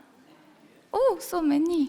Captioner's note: audience chattering